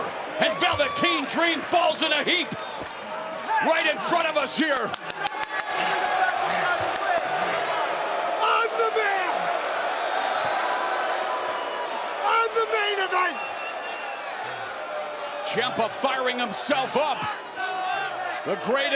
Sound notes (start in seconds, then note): 6.2 crowd cheering; 11.3 crowd cheering